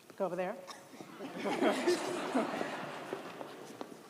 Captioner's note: all laugh